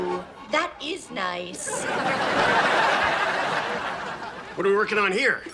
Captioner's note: audience laughs